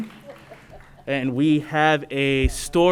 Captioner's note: applause